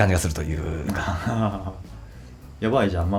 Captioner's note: laughs